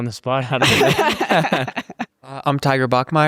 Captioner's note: group laughs